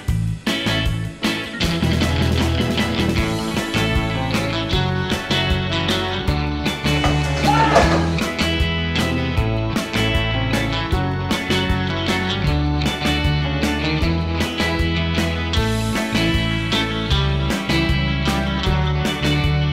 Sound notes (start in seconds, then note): 7.3 screams; 8.2 background music